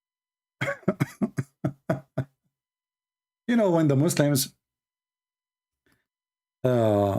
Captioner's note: Ketawa